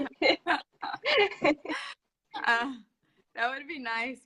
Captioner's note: laugh